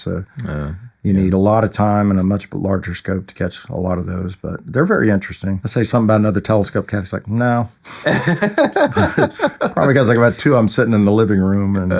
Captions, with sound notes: So, you need a lot of time and a much larger scope to catch a lot of those. But they're very interesting. I say something about another telescope, Kathy's like, "No." (Audience Laughing) Probably because I got two of them sitting in the living room.